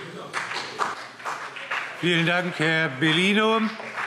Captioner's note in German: Beifall CDU und BÜNDNIS 90/DIE GRÜNEN